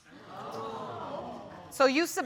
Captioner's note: audience exclaims